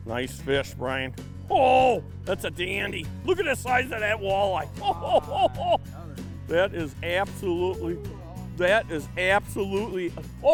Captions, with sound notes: Nice fish Brian. Oh that's a dandy. Look at the size of that walleye (laughing). That is absolutely, that is absolutely...